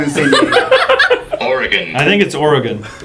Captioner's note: laugh